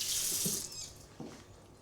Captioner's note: turning off faucet